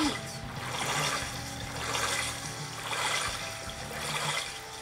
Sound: water splashing; calm music

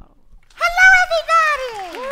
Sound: applause

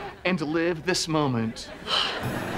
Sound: sighing

